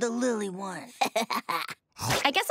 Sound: laughing

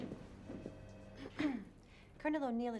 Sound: ahem

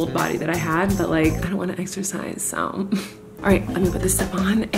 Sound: scoffs

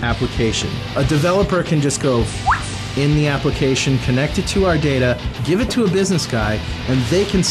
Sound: whistle

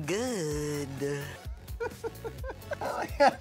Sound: laughing

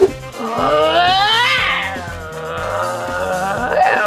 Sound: roaring

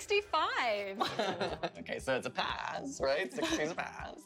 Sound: laughter

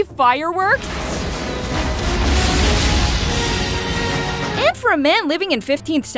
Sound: fireworks crackling

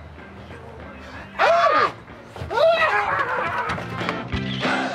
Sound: both cops scream

